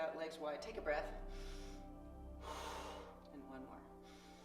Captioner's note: deep breathing